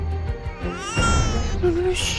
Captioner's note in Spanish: Llanto de bebé